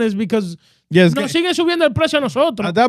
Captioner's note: speaking In Foreign Language